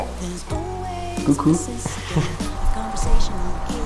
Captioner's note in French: rires